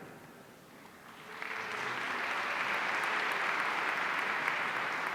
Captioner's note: audience applauding